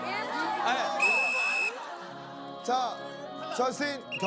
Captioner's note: he finally blows the whistle